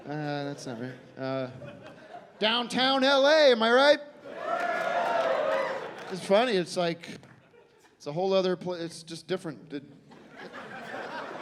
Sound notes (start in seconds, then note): 4.3 scattered cheering